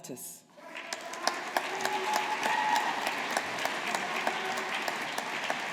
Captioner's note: audience applauding